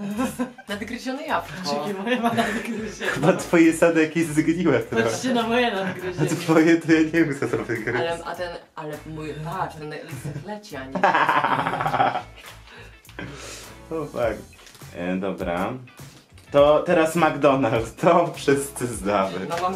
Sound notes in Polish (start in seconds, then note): 5.6 śmiech